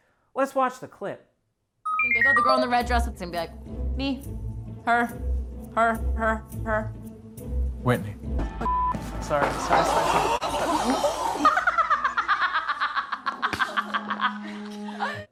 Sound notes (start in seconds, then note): 10.6 contestants gasp; 11.4 insane Laughter